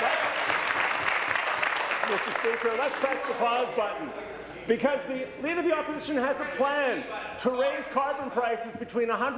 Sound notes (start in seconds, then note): 0.0 applause